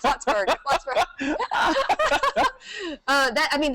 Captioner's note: laughter